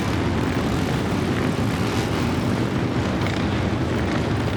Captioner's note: motorbikes continue roaring